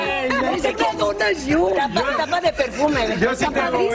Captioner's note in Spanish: risas